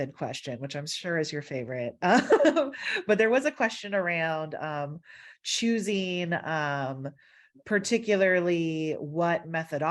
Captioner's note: laughter